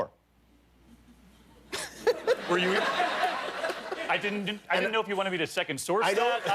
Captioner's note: laughter; laughter